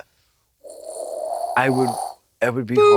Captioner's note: Trixie makes an airplane sound